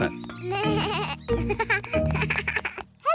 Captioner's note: bleating